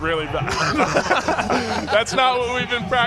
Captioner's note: laughter